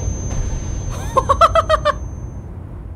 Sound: laughs

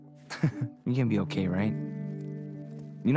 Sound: chuckling

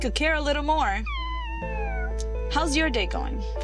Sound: cat's meow

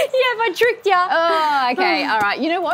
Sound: laughs

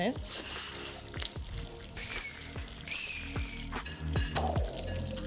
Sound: butter sizzling

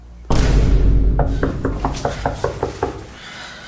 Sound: knock on door

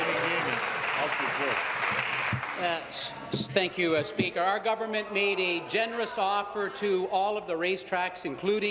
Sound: applause

